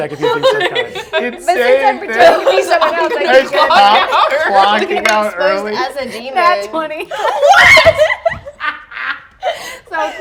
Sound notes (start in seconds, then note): 2.8 laughter; 5.3 die rolls; 7.0 laughter; 7.2 laughs